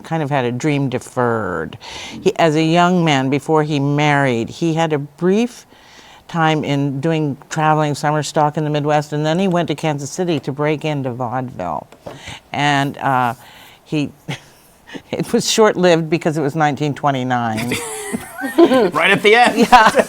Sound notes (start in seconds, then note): 13.8 laughs; 17.6 laughter